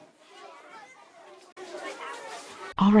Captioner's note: children chattering